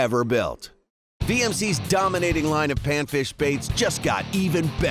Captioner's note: voiceover